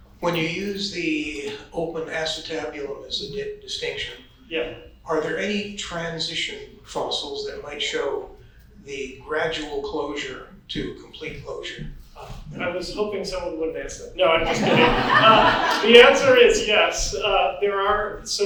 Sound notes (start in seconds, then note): 14.4 audience laughs